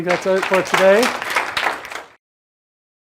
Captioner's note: applause